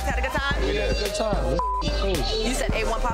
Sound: beep

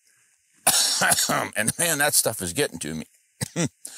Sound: coughs

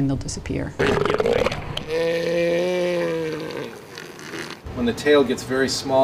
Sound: elephant seal roars

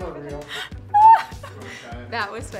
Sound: laughing

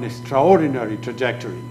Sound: speaking foreign language

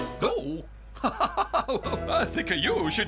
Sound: laughing

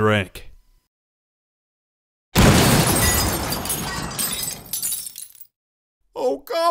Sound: crash

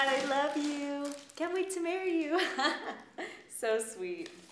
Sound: laughs

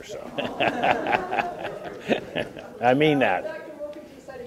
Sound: chuckles

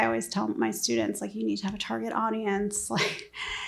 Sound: laughs

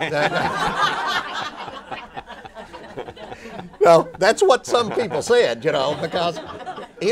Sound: laughter

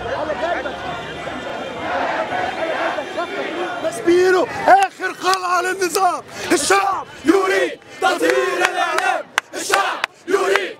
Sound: chants

